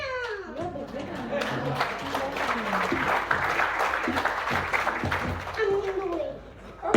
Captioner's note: applause